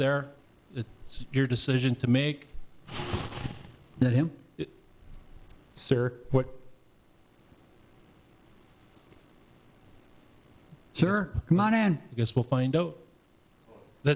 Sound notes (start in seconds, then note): 2.8 scraping